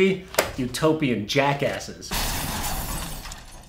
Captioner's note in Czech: rozbíjení skla